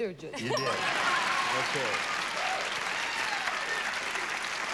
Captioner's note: cheers and applause